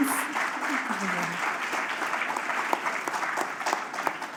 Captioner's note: applause